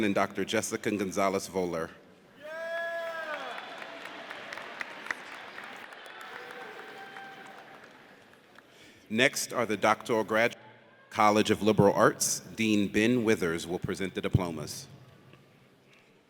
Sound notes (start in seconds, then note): 2.4 man exclaims; 4.8 audience cheers